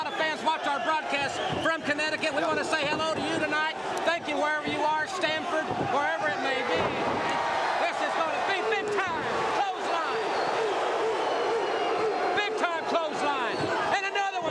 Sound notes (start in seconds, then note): 7.7 crowd cheering; 10.8 crowd cheering